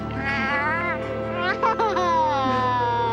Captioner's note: laughing